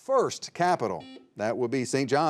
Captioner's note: buzzer beeping